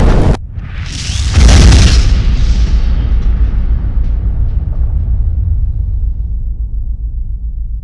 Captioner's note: rumbling; kaboom!